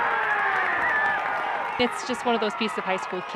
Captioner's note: crowd cheers